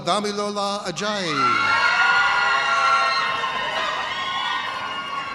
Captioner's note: audience cheers